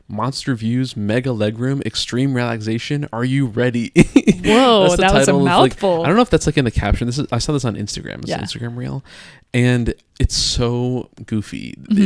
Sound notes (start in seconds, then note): 4.0 laughs